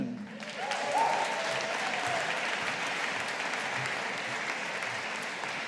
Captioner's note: audience applauding